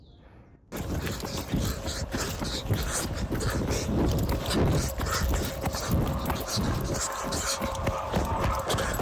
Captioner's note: heavy breathing